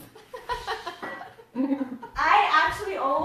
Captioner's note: laughs